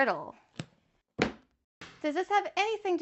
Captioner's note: book slams